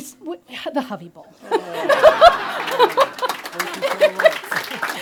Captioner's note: laughs; audience applauds